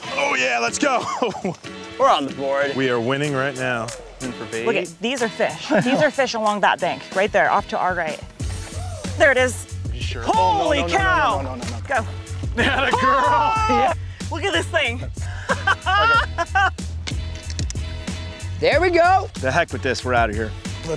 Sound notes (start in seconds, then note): 12.6 yells in excitement; 15.2 laughs